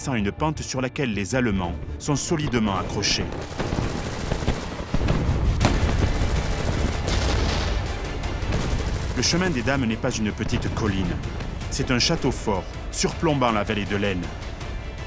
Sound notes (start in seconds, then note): 3.7 gunshots